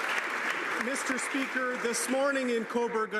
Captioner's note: some Applause